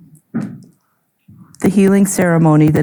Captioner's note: object thudding